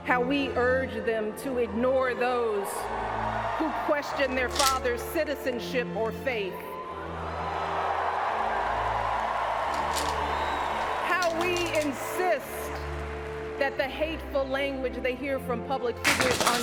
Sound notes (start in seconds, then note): 6.4 pills rattle; 8.8 crowd cheers; 16.0 pill bottle crashes